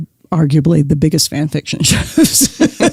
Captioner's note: laughs